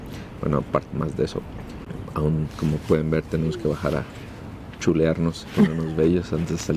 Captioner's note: laughs